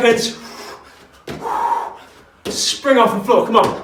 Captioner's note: exhales sharply